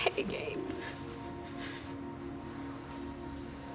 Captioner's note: crying quietly